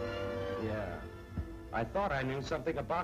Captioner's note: none